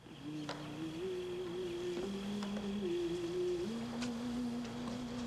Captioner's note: gentle humming